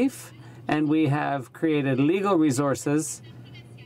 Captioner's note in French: voix de l'interprte